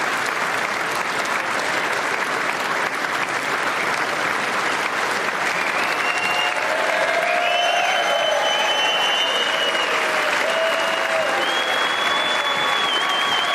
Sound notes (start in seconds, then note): 3.5 applause